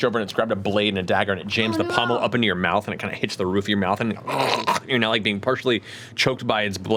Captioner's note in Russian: хрипит